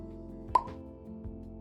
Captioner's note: pop